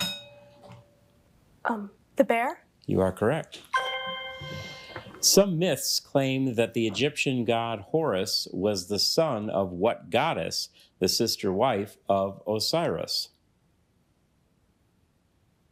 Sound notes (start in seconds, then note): 0.0 bell rings; 3.7 bell dings